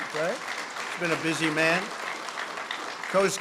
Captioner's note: applause